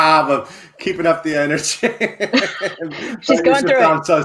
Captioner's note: laughing; laughs